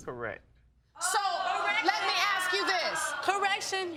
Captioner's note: audience exclaims